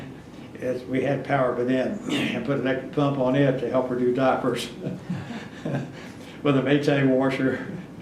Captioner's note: laughs